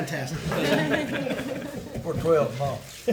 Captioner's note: attendees laugh